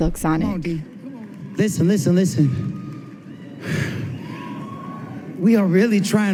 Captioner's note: soundbite of 64th annual grammy awards broadcast